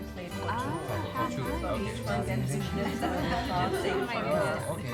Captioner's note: people chatting